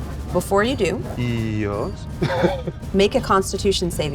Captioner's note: laughs